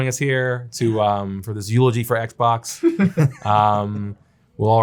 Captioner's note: people laughing